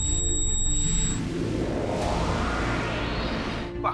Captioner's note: warp whooshing